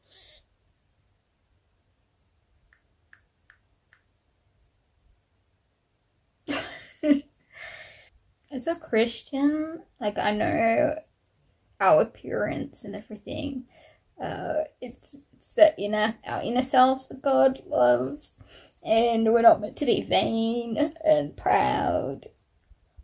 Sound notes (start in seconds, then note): 6.2 laughs at silly faces